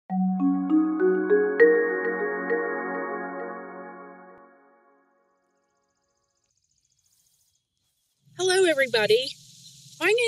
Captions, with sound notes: (slow soft music) (birds chirping) - Hello everybody.